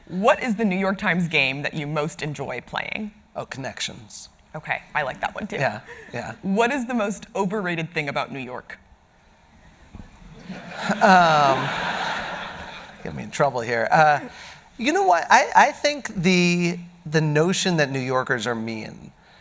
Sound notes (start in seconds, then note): 10.4 audience laughing